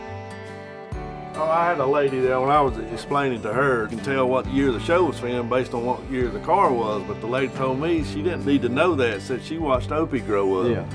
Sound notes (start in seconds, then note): none